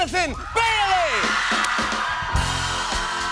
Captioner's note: cheers and applause